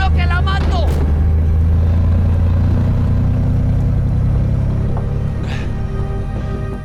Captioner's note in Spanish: Ruido del vehículo